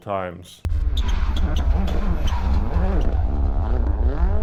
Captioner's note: engine roaring